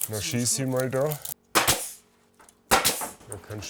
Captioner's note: banging